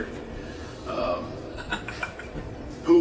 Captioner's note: laughs